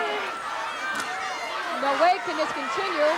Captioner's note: audience chattering and shouting